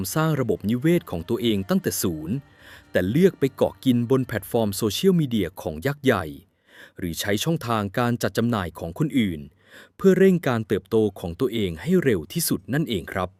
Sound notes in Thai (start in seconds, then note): 6.5 เสียงสูดหายใจ